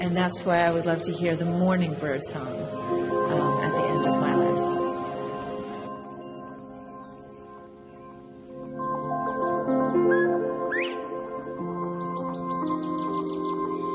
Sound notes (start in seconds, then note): 6.3 birds chirping; 8.7 ambience music